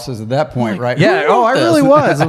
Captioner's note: laughs